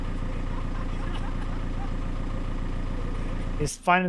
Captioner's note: both laughing